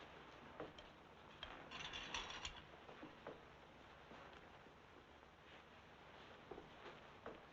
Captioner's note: footsteps thumping; equipment rattling